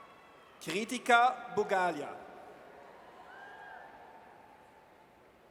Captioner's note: audience cheers